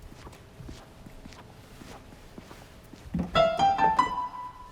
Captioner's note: foot steps squeaking; piano playing